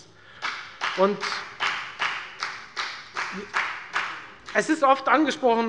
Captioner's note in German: Beifall bei der FDP